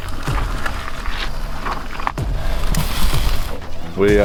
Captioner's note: meat sizzling